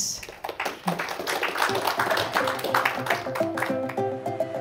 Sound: applause

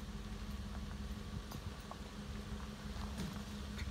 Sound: crunch of gravel and shifting chains

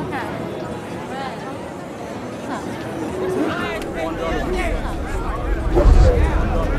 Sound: crowd chatting

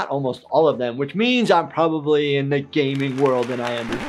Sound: crowd claps; record scratches

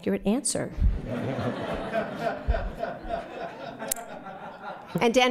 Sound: laughter

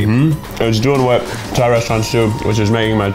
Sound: speaking in foreign language

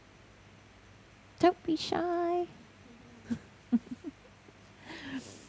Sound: chuckles

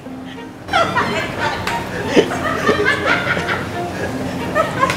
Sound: crew laughing

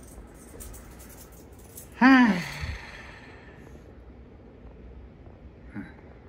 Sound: sighs

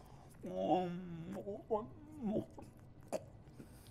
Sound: moaning

